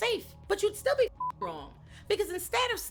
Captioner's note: beep